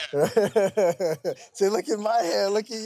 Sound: laughs

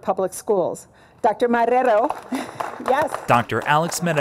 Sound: applause

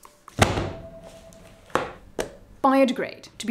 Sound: thuds

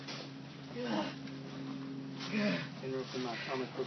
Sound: continues grunting in pain

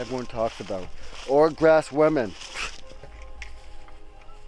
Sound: scoffs

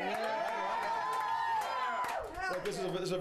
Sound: audience cheering

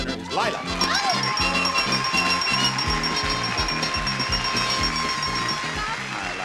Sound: bright happy music; audience applauding

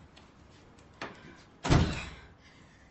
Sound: door closes

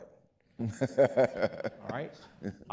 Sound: laughing

